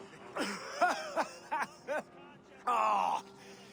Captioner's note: laughs